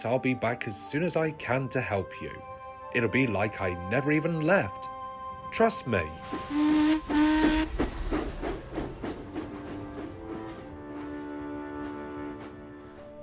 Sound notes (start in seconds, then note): 6.6 adam whistles